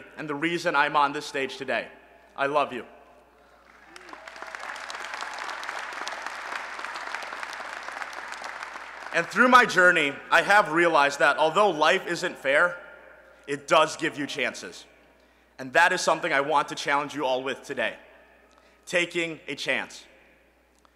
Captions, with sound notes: and the reason I'm on this stage today. I love you. [ Applause ] And through my journey, I have realized that although life isn't fair, it does give you chances. And that is something I want to challenge you all with today. Taking a chance.